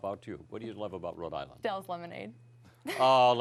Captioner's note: laughter